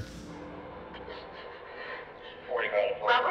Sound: breathing nervously

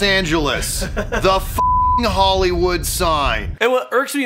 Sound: beeping

